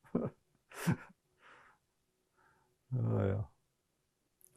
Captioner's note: laughing